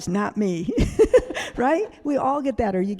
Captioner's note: laughing